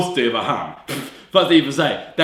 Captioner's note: pfft